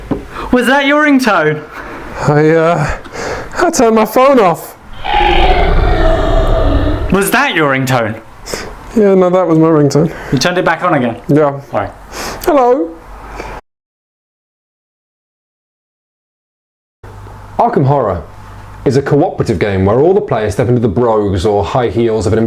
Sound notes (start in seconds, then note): 4.8 demonic growling; 12.5 fearfully